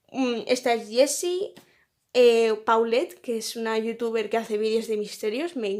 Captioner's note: in spanish